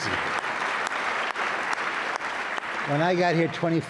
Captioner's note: audience applauds